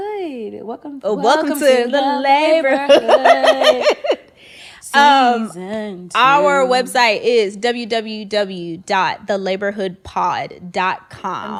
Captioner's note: laughing